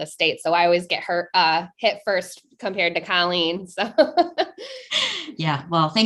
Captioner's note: chuckling